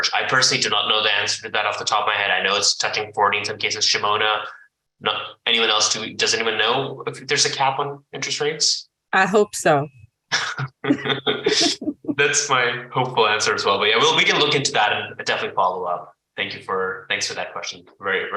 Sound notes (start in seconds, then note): 10.3 laugh